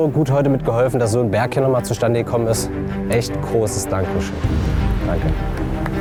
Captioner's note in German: Applaus